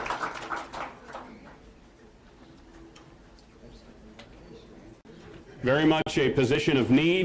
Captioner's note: applause